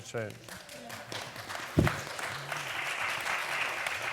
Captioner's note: applause